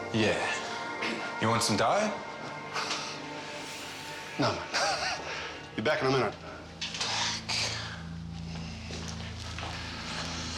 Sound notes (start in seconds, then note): 4.5 laughs